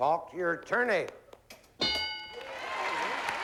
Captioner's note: applause